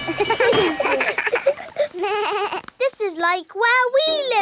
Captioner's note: all laugh